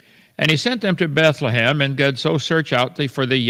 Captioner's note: Kent mumbles